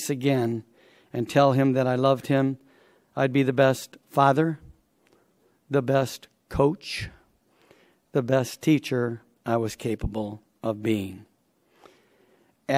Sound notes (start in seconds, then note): none